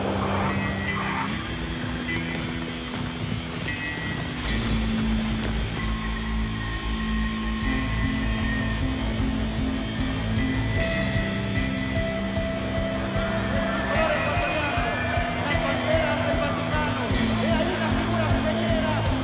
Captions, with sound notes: [commotion from large crowd] [upbeat music] “It's a very emotional moment within this coverage because of the Pope visit”